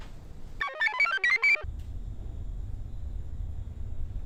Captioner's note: computer chirps